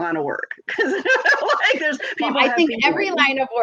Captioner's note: laughs